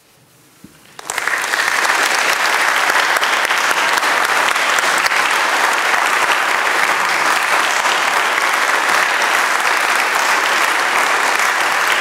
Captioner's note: applause